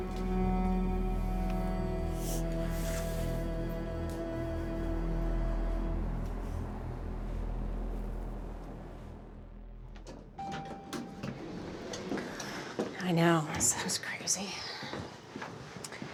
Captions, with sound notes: (soft dramatic music) (elevator dinging) - I know it sounds crazy.